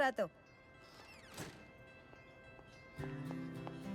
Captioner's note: door closes